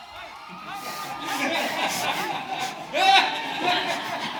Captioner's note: audience laughs